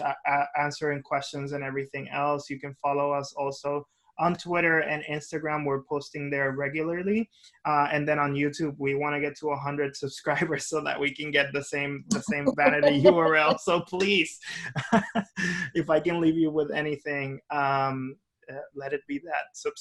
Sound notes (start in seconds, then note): 14.7 person laughing